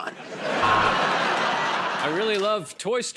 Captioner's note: laughter and applause